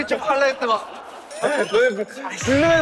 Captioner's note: laughing